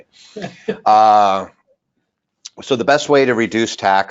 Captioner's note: person laughing